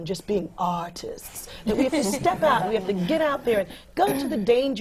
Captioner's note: laughter